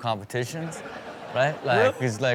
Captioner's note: crowd laughing